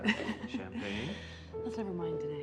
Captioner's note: Jill laughs